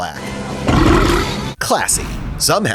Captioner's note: burps